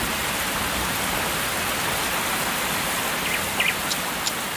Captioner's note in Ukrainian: звук дощу